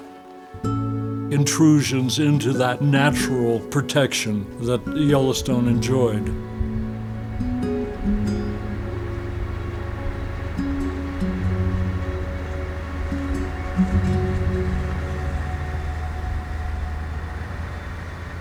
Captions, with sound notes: intrusions into that natural protection that Yellowstone enjoyed. (somber music) (motors humming)